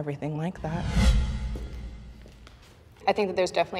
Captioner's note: wind whooshing